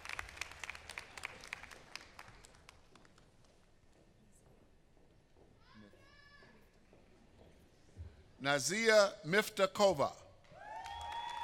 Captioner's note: applause